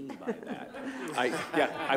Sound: laughter

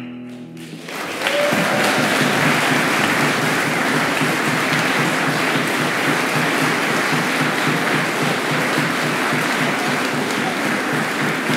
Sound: applause

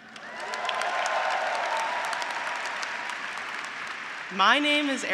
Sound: graduates applauding; graduates cheering

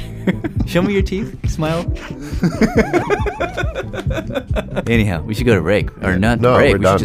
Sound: laughs

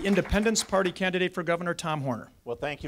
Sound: audience applause

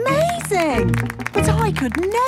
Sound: clapping

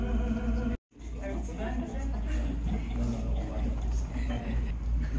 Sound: laughs

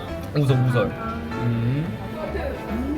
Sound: mouth watering

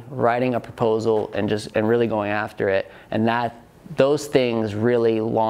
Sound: none

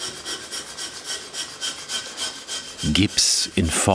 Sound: grinding

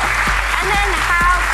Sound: applause

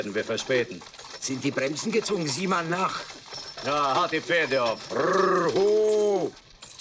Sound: in German; in German

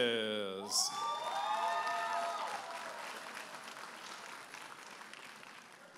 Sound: audience applauding and cheering

